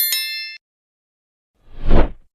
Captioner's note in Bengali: ঘণ্টা